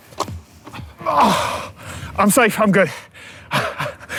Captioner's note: groans